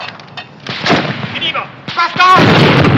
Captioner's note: speaking in german